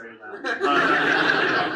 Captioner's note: audience laughs